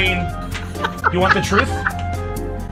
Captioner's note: friends laughing